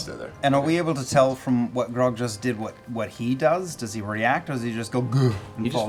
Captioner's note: grunts